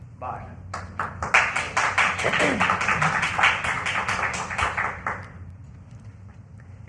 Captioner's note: applause